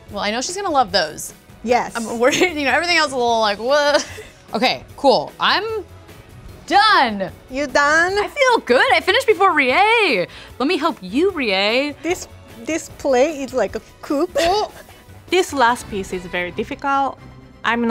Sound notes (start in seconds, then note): 14.3 laughs